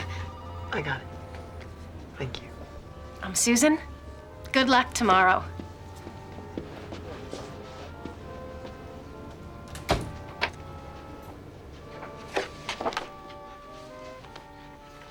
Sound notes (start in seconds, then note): 9.2 door closes